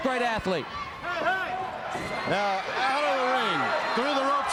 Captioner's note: crowd chatter